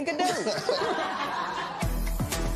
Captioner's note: laughter